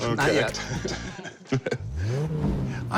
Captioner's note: both chuckle